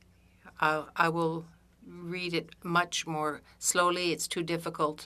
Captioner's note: speaking French